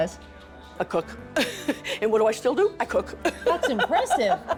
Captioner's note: chuckles